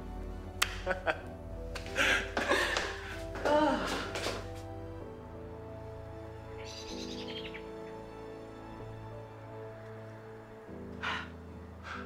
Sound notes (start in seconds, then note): 1.8 both chuckling; 4.9 birds chirping; 4.9 bright music